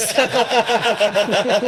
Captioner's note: laughing